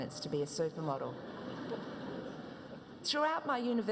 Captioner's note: audience laughs